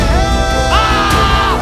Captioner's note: Agonising scream